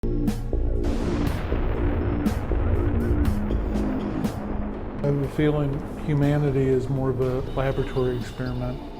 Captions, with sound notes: (mysterious music) (explosion thunders) (UFO whirring) -: I have a feeling humanity is more of a laboratory experiment.